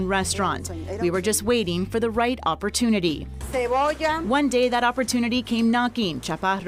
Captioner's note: speaking spanish